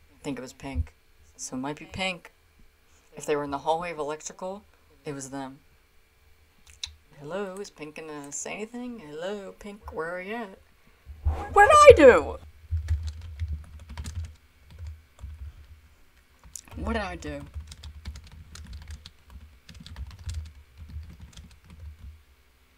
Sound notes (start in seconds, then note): 12.7 keyboard typing agressively; 18.9 keyboard typing agressively